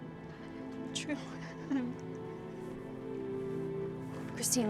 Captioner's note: crying